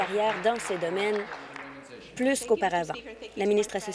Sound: applause

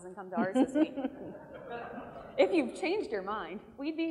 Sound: laughter

